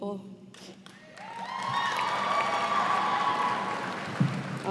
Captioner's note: cheers and applause